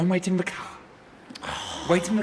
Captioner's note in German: seufzt